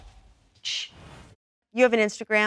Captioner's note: shushes